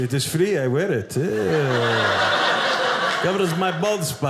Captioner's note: audience laughing